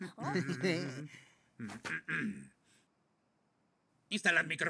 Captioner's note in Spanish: carraspeo